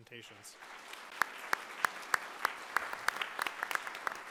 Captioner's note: audience clapping